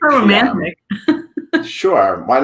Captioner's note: laughs